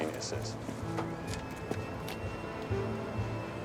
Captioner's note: footstep